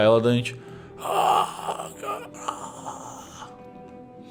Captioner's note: grunting